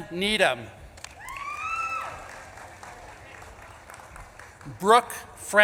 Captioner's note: audience claps and cheers